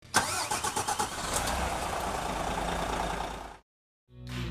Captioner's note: car engine starts